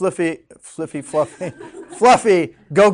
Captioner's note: students laughing